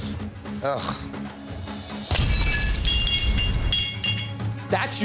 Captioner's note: plate crashes